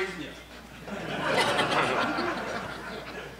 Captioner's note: crowd laughing